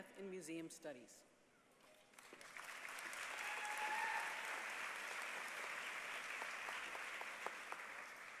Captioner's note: applause